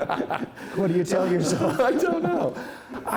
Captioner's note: laughter